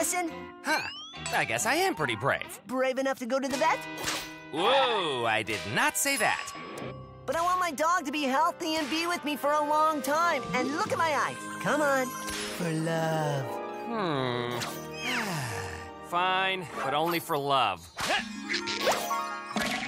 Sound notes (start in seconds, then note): 15.0 sighs